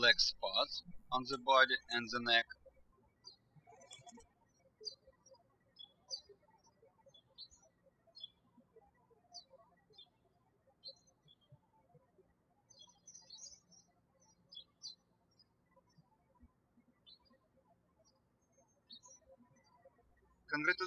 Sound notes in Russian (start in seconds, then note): 3.8 птички щебечут